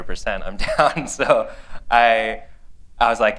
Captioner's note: laughter